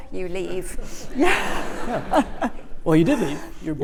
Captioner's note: laughs